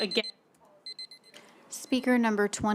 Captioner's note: timer beeping